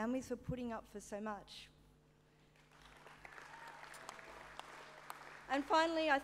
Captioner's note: applause